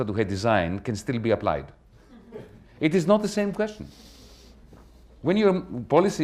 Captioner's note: laughter